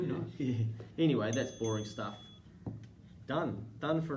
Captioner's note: timer dings